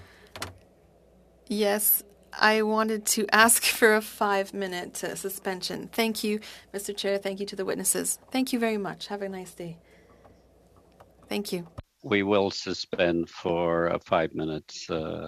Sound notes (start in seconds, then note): 7.8 speaking French